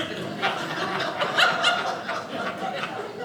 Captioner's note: audience laughing